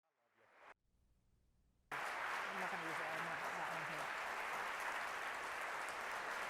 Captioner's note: applause